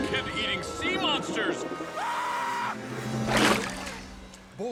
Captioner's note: announcer screams